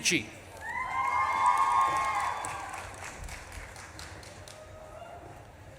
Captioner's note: audience claps and cheers